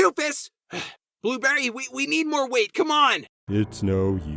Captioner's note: sighs